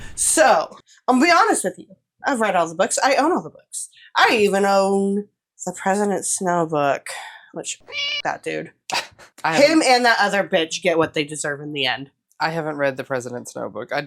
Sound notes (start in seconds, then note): 7.8 meow